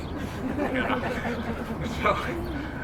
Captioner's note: crowd chuckles